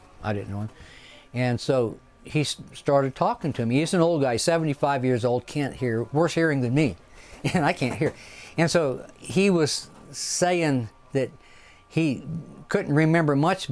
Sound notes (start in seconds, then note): 7.4 chuckles